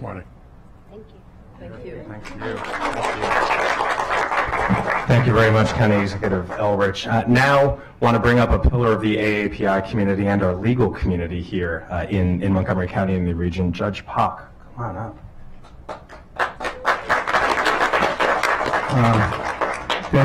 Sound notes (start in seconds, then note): 7.6 applause